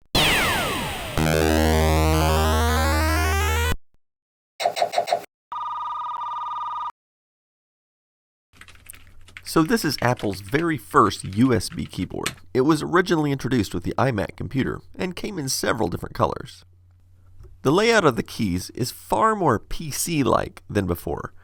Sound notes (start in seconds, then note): 0.1 retro sci-fi sounds; 8.5 typing